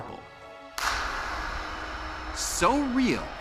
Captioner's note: claps